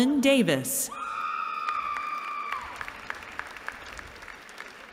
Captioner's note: cheering